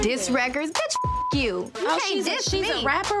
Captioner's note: beep